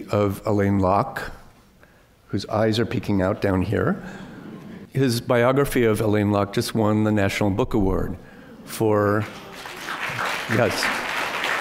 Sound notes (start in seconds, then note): 9.2 applause